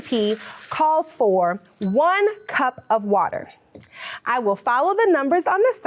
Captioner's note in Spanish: tintinea la campana